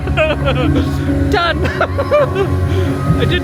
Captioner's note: laughing